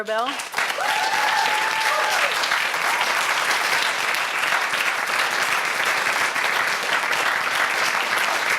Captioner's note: applause